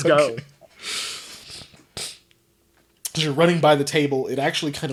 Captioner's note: laughing